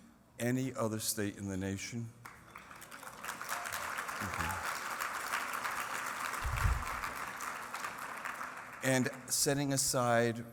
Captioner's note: applause